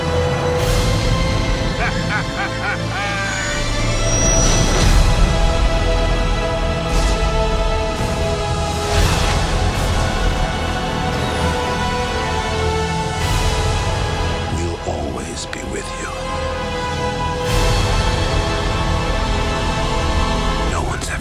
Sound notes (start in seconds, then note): 1.7 laughing; 5.4 dramatic music; 17.5 dramatic music